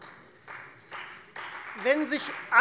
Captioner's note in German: Beifall Freie Demokraten